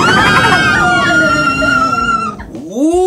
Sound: screams

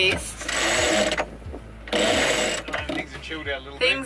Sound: sail creaks

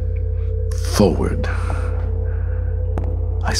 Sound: echoed footsteps

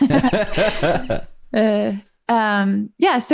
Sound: laughter

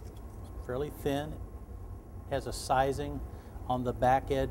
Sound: none

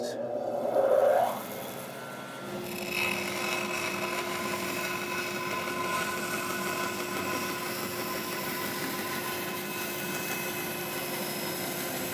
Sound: bandsaw hums

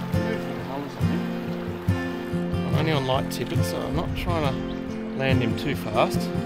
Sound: wind

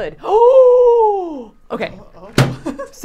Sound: gasping

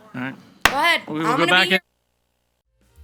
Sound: gavel bangs

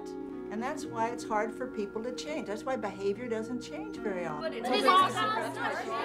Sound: chatter

